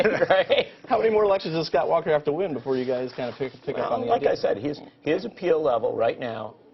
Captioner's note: laughter